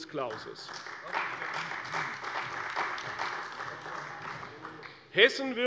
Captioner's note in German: Beifall bei der CDU